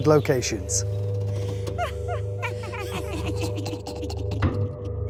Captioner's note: sinister laughing